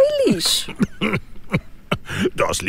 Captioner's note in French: tousse